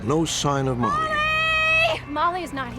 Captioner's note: yelling